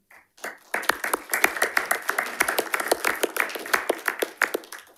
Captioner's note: panelists applauding